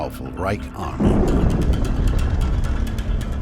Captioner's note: bomb exploding